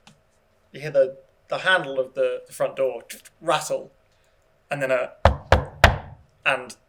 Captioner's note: knock